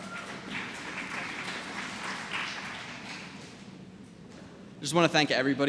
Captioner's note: applause